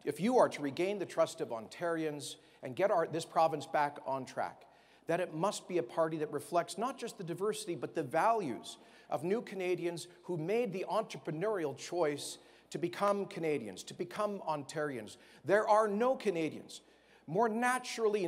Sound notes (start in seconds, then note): none